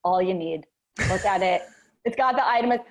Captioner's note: chuckles